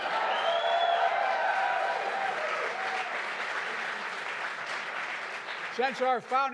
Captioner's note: applause